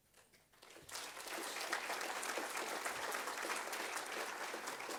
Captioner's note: audience applauds